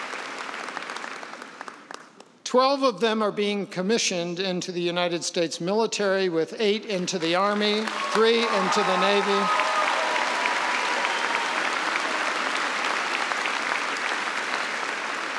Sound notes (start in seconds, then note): 9.3 applause